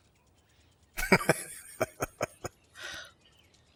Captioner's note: laughing